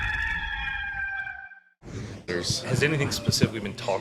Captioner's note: rooster crowing